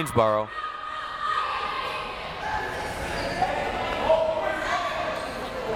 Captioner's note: crowd members shouting